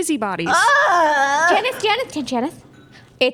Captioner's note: yell of frustration